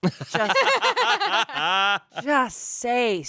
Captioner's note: everyone laughs